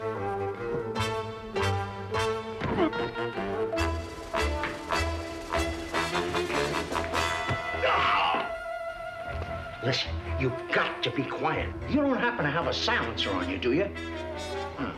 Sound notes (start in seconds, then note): 0.1 tense music; 7.4 groans; 7.9 tense music; 14.7 tense music